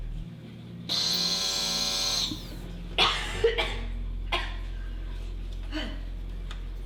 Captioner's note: buzzing; coughs